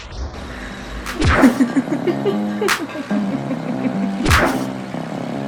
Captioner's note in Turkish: Gülme sesi